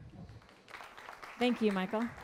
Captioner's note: applause